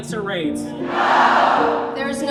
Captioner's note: crowd